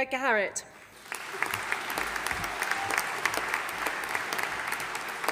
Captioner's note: audience applauding